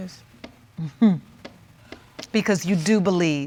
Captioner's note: chuckles